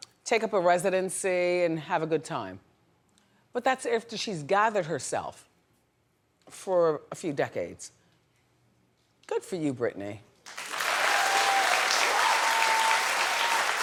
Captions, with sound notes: Take up a residency and have a good time. But that's after she's gathered herself for a few decades. Good for you Britney. (adience cheers)